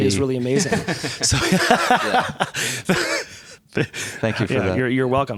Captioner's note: laughter